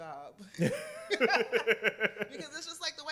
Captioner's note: laughter